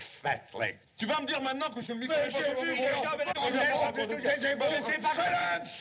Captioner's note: both Men Shouting In French